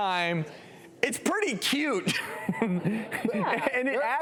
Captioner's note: laughs